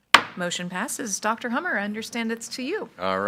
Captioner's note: gavel clinking